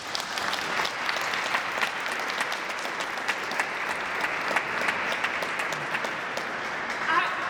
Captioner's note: applause